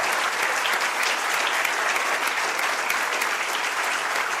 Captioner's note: audience applauds